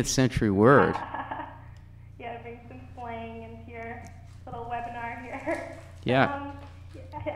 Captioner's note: laughs